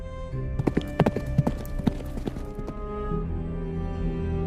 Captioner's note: Atari galloping away